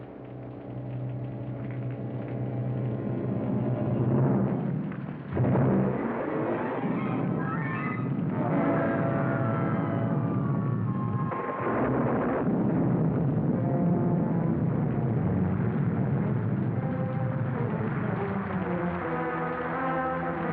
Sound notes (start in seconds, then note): 0.3 ominous music; 4.1 thunder rumbles; 13.5 ominous music; 18.1 rain patters hard